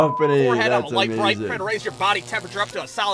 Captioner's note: beep; wires zapping